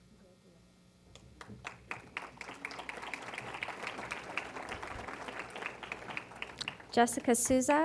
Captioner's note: applause